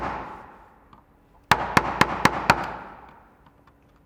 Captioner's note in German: Hammergeräusche